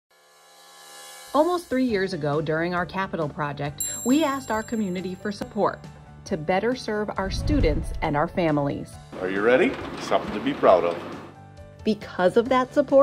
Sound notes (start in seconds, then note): 0.1 upbeat music begins; 3.8 chime; 7.2 low air woosh